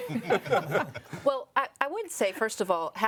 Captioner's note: people laugh